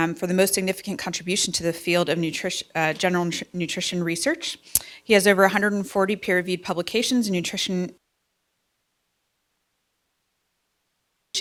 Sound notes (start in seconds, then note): 8.1 silence